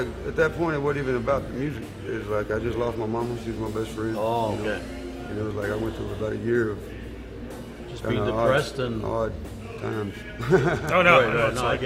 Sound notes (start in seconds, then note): 10.0 laughs